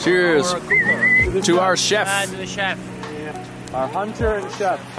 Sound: whistling

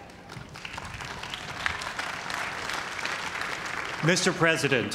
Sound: cheers and applause

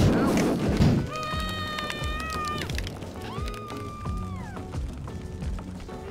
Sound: female screaming

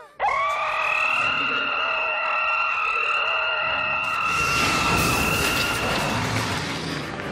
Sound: roaring

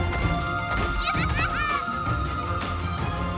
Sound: giggles

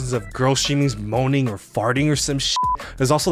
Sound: beep

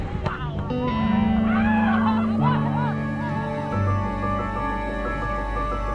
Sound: people talking and yelling

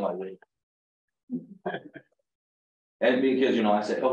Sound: laughter

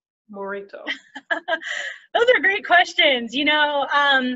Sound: laughs

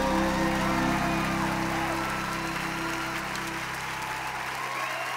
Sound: audience cheering

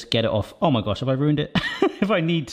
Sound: chuckles

